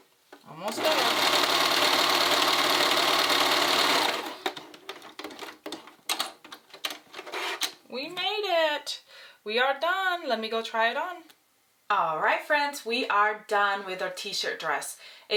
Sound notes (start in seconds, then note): 0.7 sewing machine whirring; 5.0 switches clicking